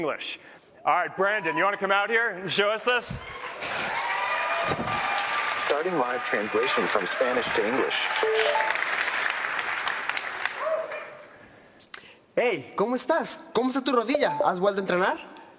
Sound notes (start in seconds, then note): 8.1 cheers and applause